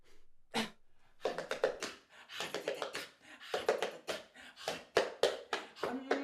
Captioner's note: sniffing; rhythmic tapping; scoffing; mystic humming